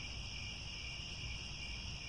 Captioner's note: crickets